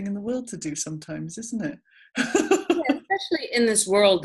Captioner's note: laughing